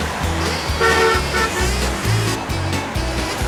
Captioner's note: car honking